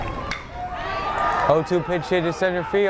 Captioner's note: bat cracks